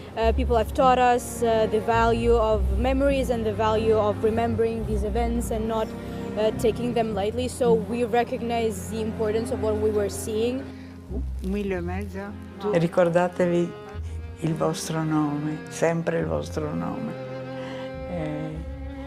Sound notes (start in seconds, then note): 11.6 speaking in foreign language